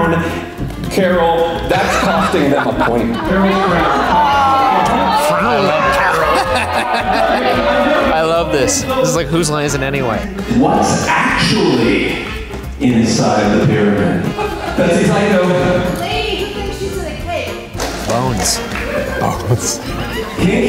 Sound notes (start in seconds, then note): 4.0 crowd boos; 6.7 laughs